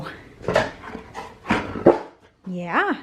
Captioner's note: dog speaking